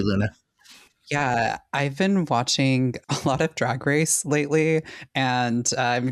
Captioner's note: chuckles